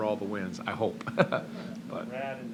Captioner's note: laughs